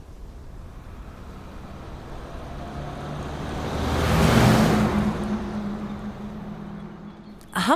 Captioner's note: increasing rumble from approaching vehicle